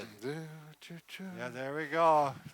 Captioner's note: humming